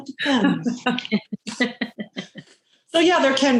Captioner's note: laughing